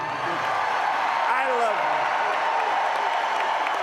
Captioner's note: cheering and applause